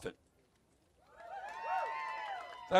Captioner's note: cheers